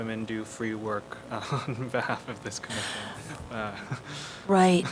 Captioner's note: laughter